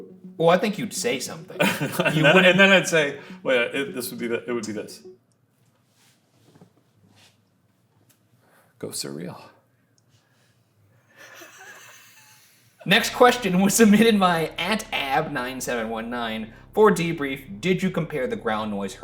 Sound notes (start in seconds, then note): 1.5 Shane chuckling; 11.2 both chuckling